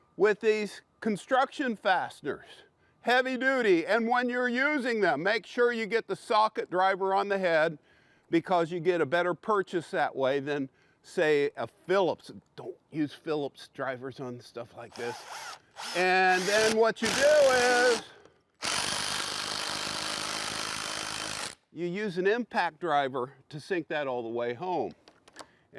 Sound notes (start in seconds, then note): 18.6 impact driver buzzing